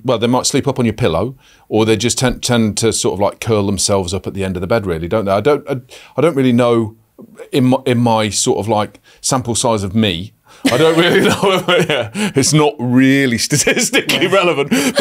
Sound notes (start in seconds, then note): 10.6 laughs